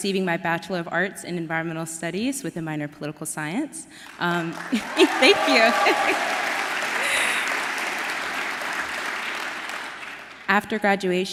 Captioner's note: applause